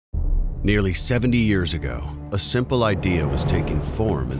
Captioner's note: voiceover